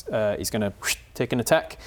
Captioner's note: whip